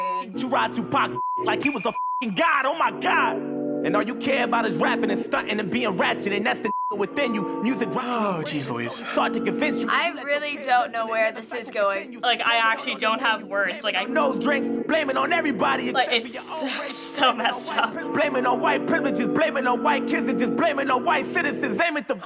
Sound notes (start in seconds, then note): 7.9 sighing